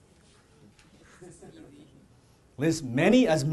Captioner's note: audience laughing